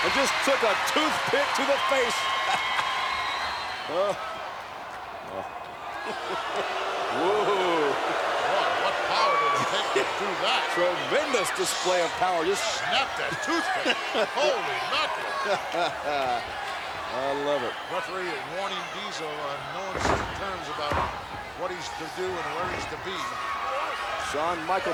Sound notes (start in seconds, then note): 3.3 laughs; 6.1 crowd boos; 16.2 laughs